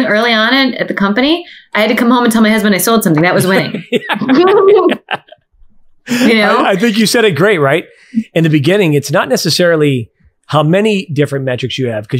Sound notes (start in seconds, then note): 3.3 everyone laughs